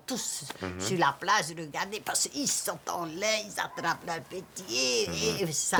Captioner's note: speaking French